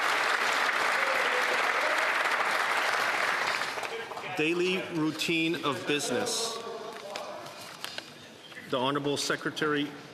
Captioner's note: applause